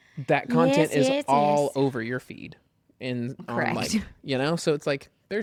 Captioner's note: laughs